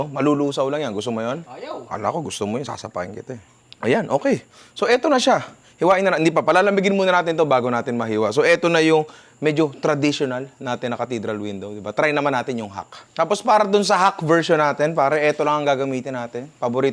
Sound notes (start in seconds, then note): none